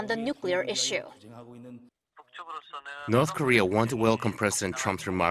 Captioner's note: Korean